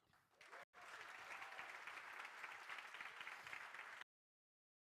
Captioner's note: crowd applauding